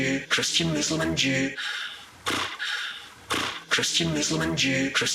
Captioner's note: snorting